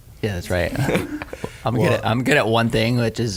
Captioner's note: laughing